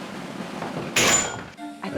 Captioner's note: clank